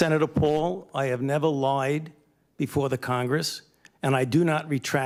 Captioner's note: none